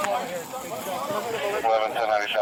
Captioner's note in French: groupe conversant indistinctement